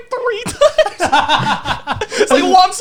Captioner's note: laughing